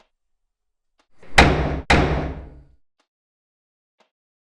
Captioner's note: hard knocking on door